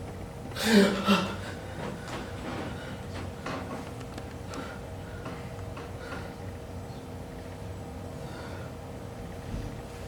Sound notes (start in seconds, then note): 0.5 Aaron gasps